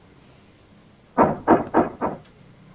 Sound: knocking on the door

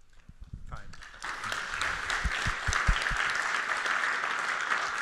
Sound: audience applauds

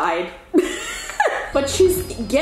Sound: laughs

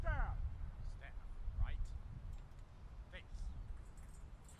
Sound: medals clinking

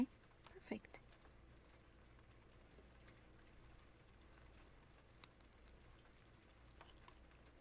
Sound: rain sounds; squishy liquid lipstick sounds

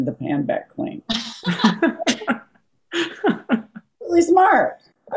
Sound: laughing

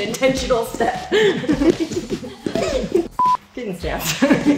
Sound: laughing

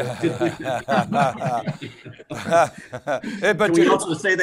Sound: group laughing

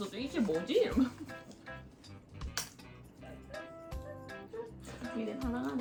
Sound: hahahahaha ♡

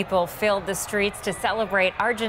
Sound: crowd noise

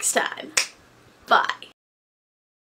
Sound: finger snaps

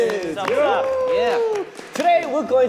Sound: cheering

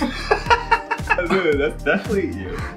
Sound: laughing

